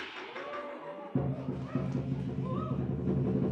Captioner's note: cymbal clash and cheering; rhythmic drumming